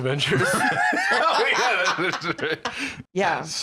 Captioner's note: laughing